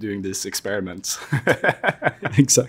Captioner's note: Jensen and Joel laugh